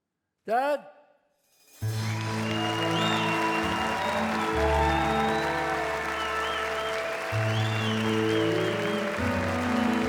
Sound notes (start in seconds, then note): 1.8 audience applauds, cheers; 5.8 slow piano music plays